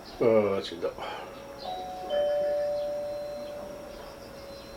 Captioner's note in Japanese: 〜チャイム